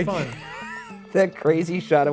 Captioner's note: laughs